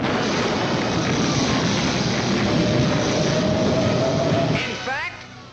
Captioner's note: loud Storm Sounds